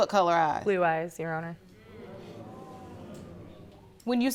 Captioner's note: audience exclaiming